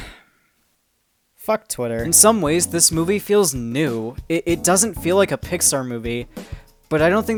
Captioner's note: sigh